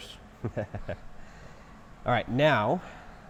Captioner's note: laughing